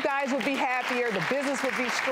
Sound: audience clapping

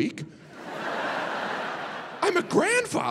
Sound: audience laughing

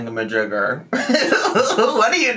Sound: laughing

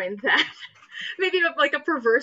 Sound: laughs

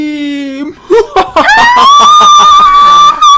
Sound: evil laugh

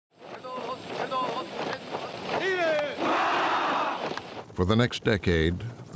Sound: men chanting in Spanish

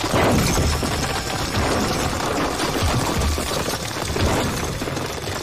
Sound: rocks falling loudly

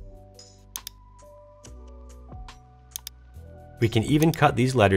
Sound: mouse clicking

